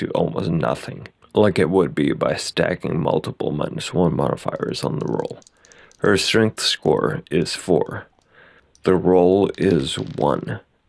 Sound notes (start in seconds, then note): 7.8 roll sound